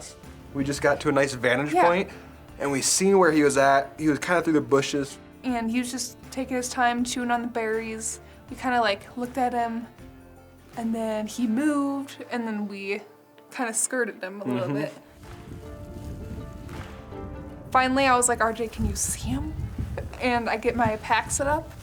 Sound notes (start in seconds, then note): 15.0 wind whooshing; 15.4 soft music